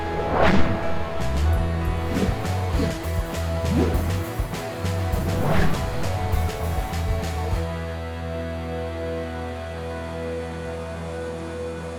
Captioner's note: uplifting music; whooshing; upbeat uplifting music